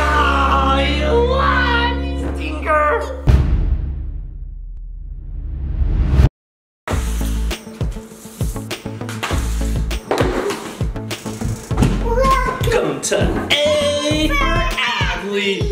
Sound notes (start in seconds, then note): 3.2 bang; 6.9 upbeat music